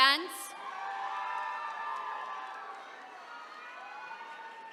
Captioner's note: attendees cheering